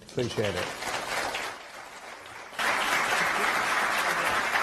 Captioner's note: audience applauds